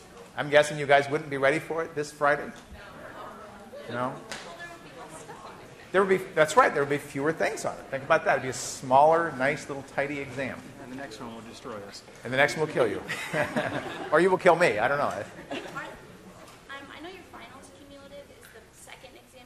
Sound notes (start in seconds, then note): 13.0 laughs